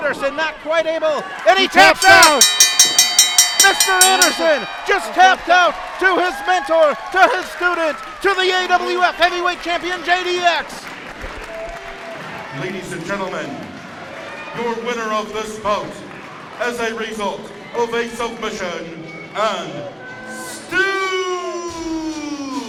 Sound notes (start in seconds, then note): 1.8 ring bell ringing; 12.4 crowd cheering